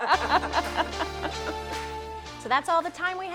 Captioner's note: laughter; upbeat music